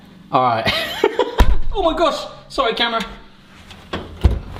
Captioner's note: laughs